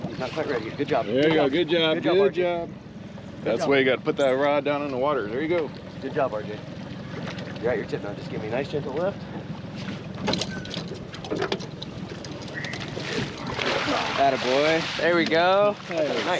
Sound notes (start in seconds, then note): 11.4 clattering; 13.5 fish splashing